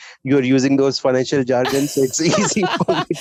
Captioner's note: laughter